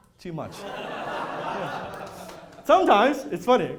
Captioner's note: laughter